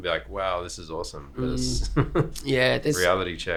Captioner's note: chuckles